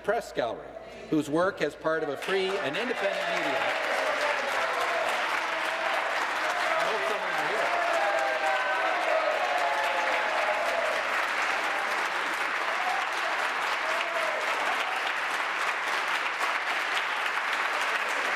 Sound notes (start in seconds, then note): 6.9 applause